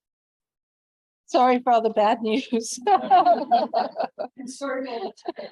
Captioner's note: laughs